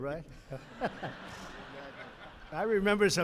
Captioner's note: laughter; laughs